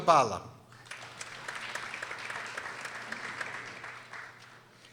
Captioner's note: people applauding